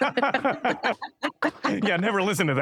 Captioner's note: laughter